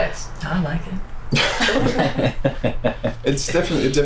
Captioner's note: others laugh